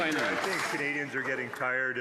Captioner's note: some Applause